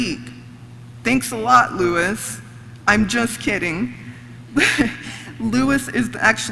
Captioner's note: laughs